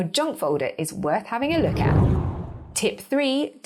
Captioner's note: air whooshing